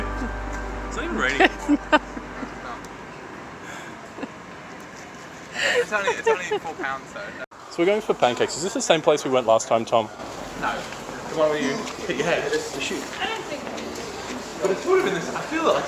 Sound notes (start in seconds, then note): 5.5 laughing